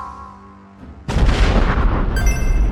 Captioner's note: explosion sound